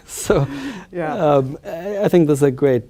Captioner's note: laughs